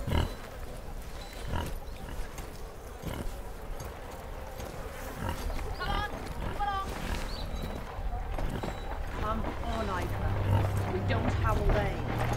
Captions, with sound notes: (pigs grunt) (marching in the distance) - [Distant voice] Come on! Move along! Come on, Ichor, we don't have all day.